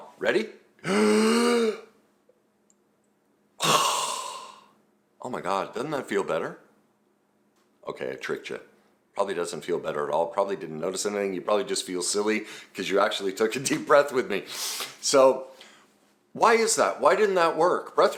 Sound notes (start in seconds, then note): 3.6 exhales; 3.6 gasping breath